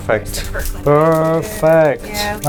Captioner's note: crinkling sounds